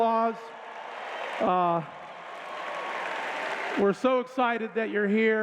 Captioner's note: applause